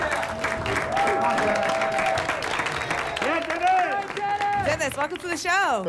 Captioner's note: applause and cheering